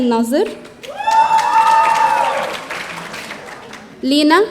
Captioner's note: audience cheering